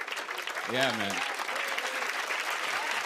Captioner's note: cheers and applause